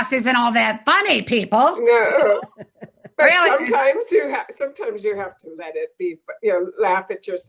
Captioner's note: laughing